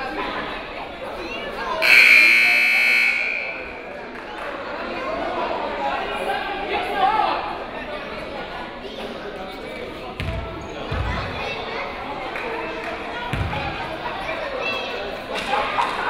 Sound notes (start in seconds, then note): 1.8 buzzer